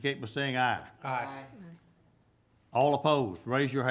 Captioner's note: group chanting